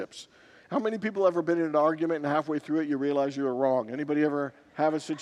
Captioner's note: congregants laugh